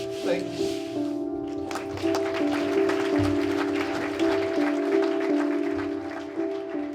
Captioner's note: applause